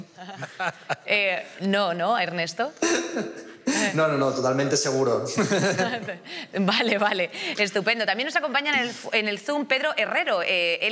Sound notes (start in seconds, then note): 5.4 all laughs